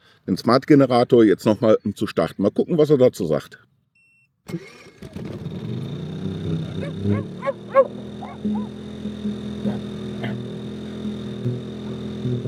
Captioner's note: dogs